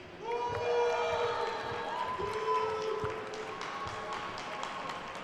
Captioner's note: attendees cheering and applauding